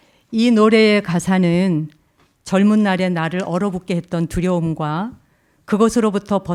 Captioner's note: speaking in Korean